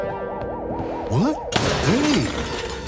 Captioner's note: crash